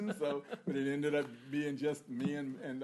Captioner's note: laughter